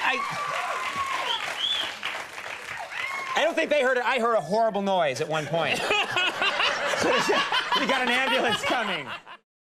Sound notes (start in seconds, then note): 5.4 laughing